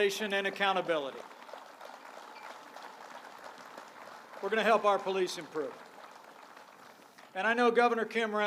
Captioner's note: applause